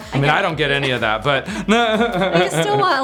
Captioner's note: laughs